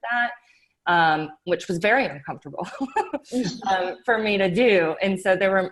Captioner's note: laughs